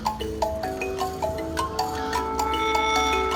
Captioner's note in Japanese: カラスの鳴く声